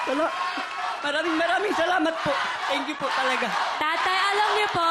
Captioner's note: crowd screaming, applauding; crowd chanting